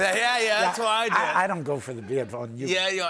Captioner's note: laughter